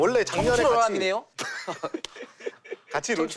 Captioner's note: awkward laugh